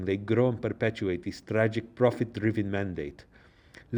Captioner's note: none